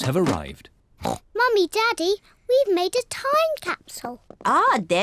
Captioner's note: oinks